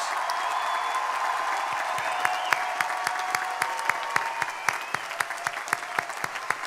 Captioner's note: crowd applauding; crowd cheering